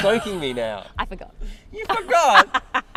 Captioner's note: laughing